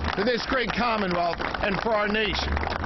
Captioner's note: applause